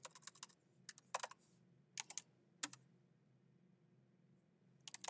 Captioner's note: keyboard clacking